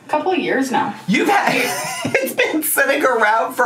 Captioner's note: laughs